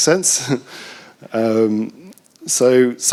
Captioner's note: chuckles